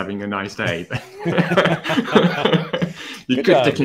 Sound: laughter

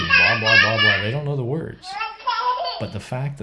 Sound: baby giggles

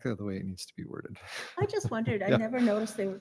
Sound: laughs

